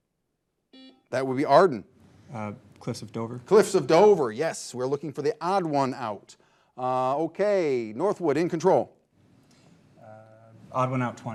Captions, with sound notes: (buzzer buzzing) That would be Arden. - Cliffs of Dover. - Cliffs of Dover, yes. We're looking for the odd one out. Okay, Northwood in control.